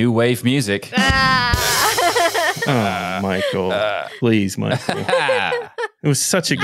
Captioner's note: laughing